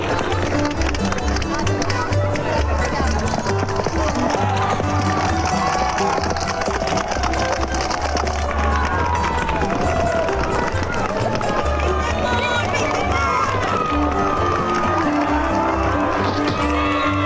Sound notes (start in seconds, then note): 0.4 horse hooves clopping; 3.2 gentle upbeat music; 6.1 horse hooves clopping; 14.4 crowd cheering